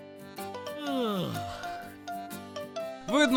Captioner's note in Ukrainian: позіхає